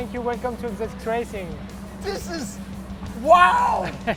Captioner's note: French accent; laughs